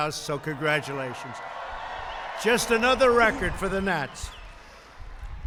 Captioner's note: applause